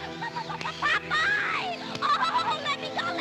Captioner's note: stammers